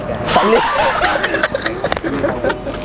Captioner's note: laughing